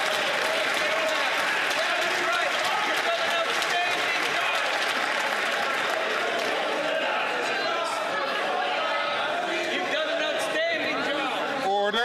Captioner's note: some Applause